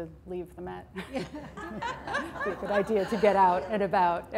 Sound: laughter

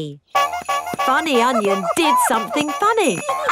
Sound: shoes honking

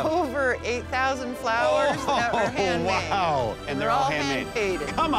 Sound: chuckles

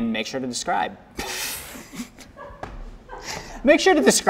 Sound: burst out laughing

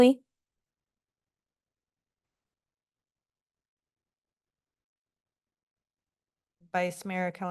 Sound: silence

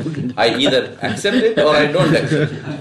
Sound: laughs

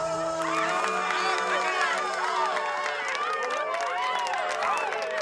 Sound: crowd cheering and clapping

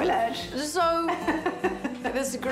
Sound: laughs

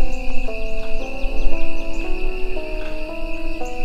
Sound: insects buzzing

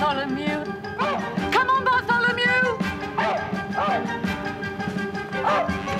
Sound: barking

